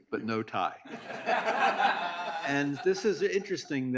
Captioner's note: audience laughs